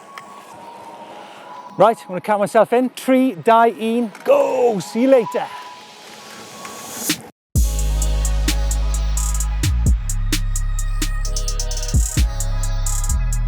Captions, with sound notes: - Right, I'm going to count myself in. Three, (speaks in foreign language), go. See you later. (soft electronic music)